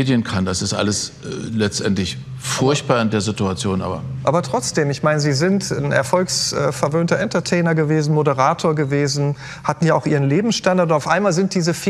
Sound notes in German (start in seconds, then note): none